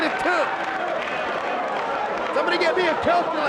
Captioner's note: spectators applauding